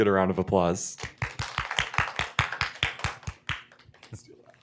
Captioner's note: applause